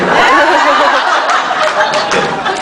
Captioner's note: laughs